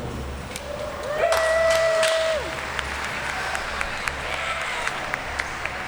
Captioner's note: cheers & applause